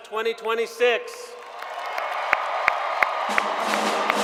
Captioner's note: cheers and Applause